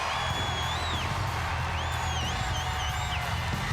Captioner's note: crowd cheering